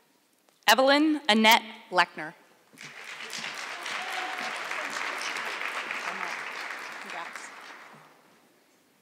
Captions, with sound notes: Evelyn Annette Leckner. (audience clapping)